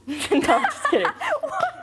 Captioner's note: laughing